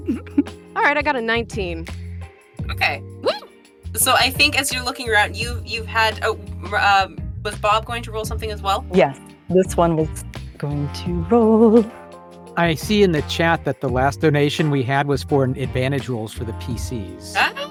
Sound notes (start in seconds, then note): 0.0 giggles; 3.2 whoops